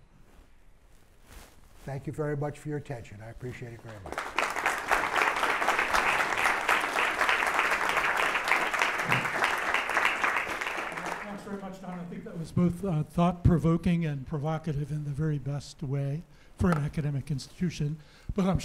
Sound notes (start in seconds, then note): 3.8 applause